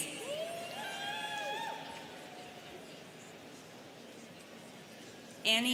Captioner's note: students cheering